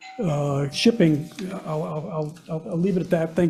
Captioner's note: bell dinging